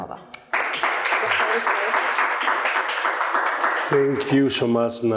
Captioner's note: audience applauding